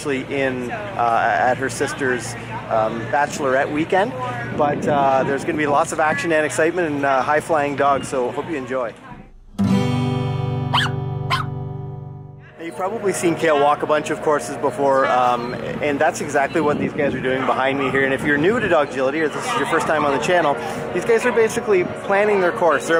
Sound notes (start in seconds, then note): 10.7 dog yips